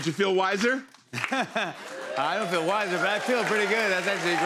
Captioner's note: laughs